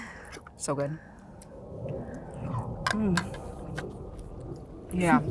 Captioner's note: savoring